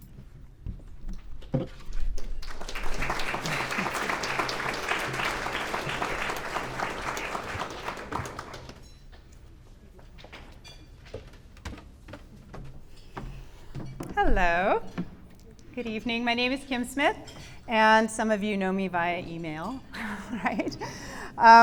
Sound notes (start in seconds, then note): 2.2 clapping